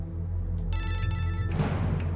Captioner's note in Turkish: telefon çaliyor